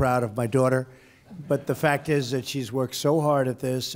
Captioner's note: laughter